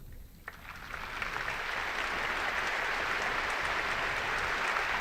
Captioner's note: enthusiastic applause